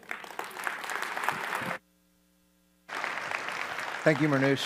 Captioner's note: audience applauds